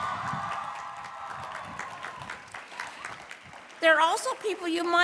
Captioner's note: applause